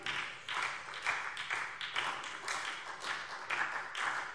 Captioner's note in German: Beifall SPD